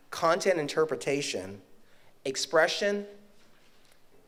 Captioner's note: none